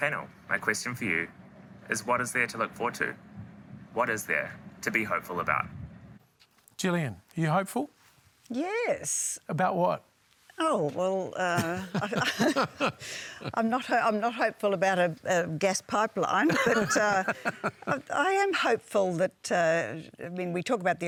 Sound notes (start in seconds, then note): 11.5 laughs